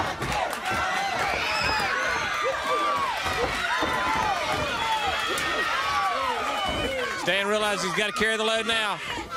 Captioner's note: crowd chatter; crowd chatter